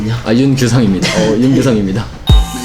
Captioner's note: haha